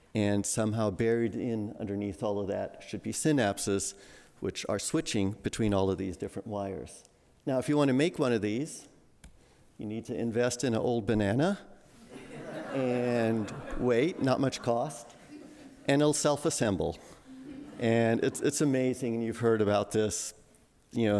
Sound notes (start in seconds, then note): 12.1 audience laughing